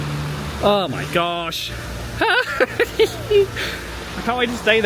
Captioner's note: laughing